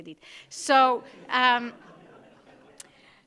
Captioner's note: laughter